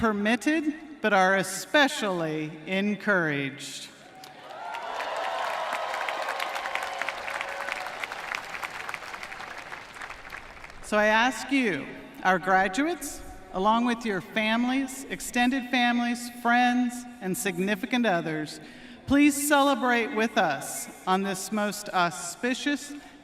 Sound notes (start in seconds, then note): 6.4 cheering and applause